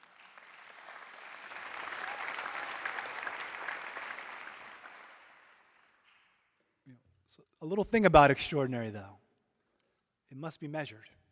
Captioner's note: applause